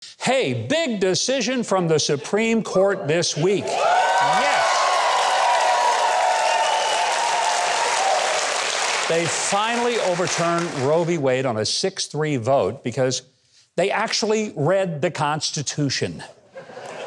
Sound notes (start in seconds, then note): 3.4 audience cheering; 6.3 audience applauding